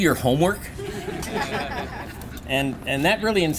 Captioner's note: laughter